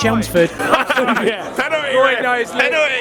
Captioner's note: guys laughing